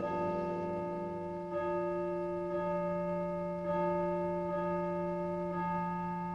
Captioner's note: church chimes